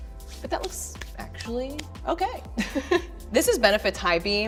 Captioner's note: laughing